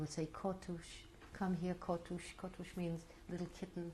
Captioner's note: non-english